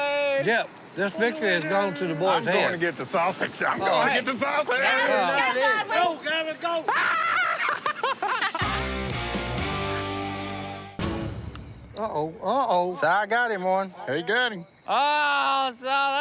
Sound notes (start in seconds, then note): 6.6 laughs